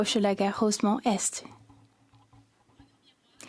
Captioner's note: speaking French